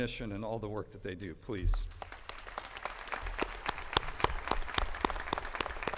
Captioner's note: attendees clapping